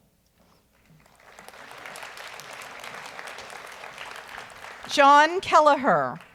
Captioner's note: audience applauds